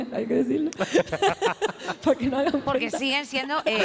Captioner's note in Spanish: algunos ríen